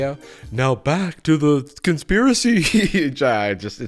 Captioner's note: spookily